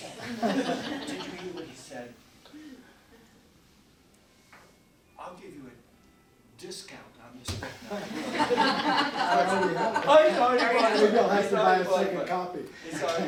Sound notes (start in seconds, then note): 0.0 audience laughing; 4.1 phone ringing; 7.9 audience laughing; 7.9 audience laughing drowns out; 12.8 laughs